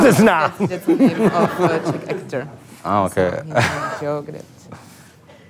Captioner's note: laugh